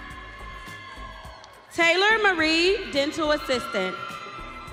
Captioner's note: audience cheering